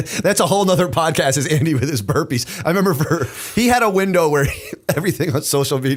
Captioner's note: chuckle